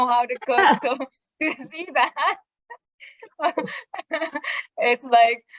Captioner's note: laughing